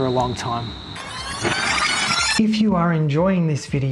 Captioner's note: tape rewinding sound